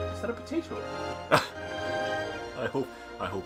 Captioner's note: NinjaFish laughs